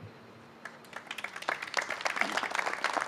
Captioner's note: applause